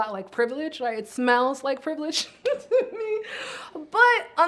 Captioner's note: chuckles